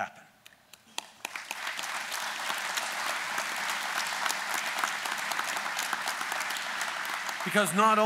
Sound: applause

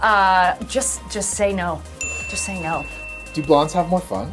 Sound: ding

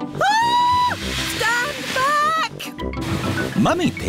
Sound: shrieks

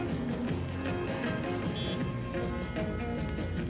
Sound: cars honking

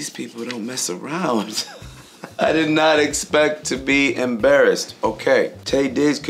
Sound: chuckling

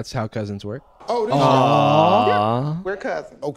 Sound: awwwing

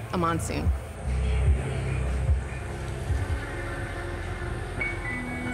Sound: monsoon sounds over music bed

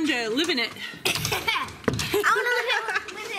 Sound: laugh

